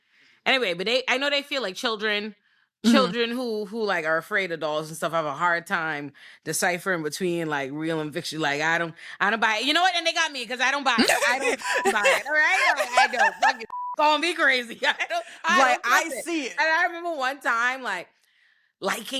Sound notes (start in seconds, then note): 11.0 laughing